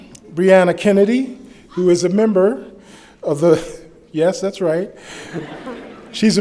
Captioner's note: laughter